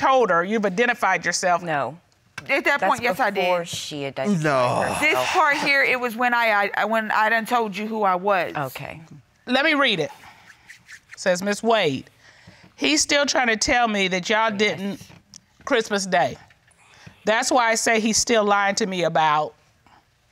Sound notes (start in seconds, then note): none